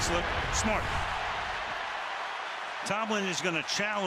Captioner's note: cheering